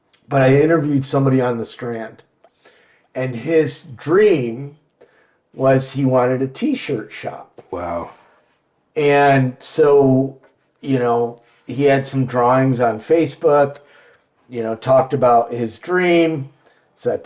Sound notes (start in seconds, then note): none